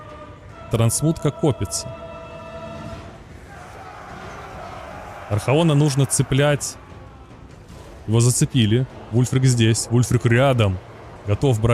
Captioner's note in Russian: крик